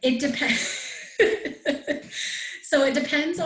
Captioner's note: laughs